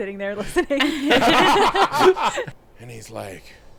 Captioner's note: everyone laughing